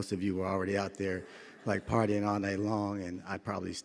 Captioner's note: audience chuckling